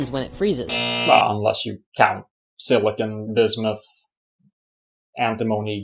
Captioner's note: buzz